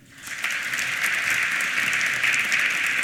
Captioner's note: applause